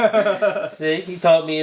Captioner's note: laughing